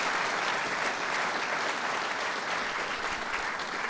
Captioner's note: applause